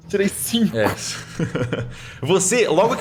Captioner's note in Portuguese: risada